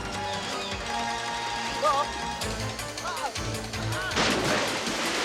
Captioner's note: Roger yells